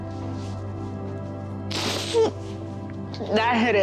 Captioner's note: sniffling